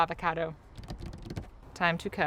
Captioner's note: tapping table